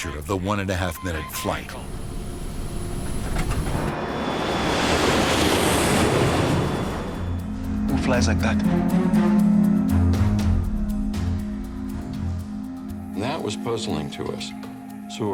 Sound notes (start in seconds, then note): 4.2 plane roaring